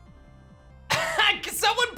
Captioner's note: chuckles